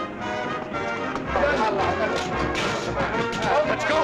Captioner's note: people chattering